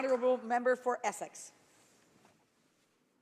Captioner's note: some applause